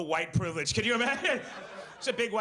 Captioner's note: laughs